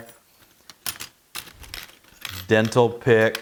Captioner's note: metal clattering